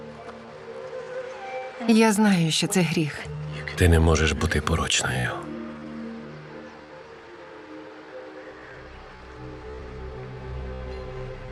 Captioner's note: Rebecca breathing heavily